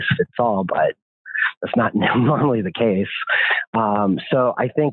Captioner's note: laughs